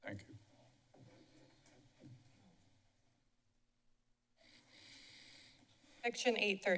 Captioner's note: silence